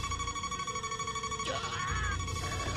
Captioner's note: beeping